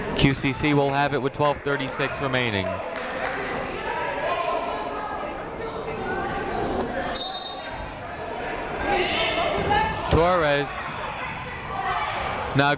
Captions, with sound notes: QCC will have it with 12:36 remaining. (people shouting in the crowd) (whistle tweeting) (people shouting in the crowd) Torres.